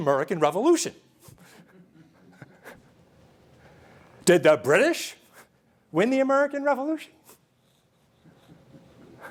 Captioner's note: laughter